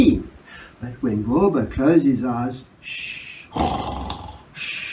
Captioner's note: snore